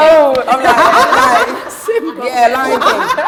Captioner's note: laughter